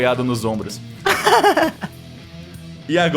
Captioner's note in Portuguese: risada